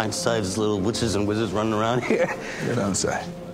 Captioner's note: chuckles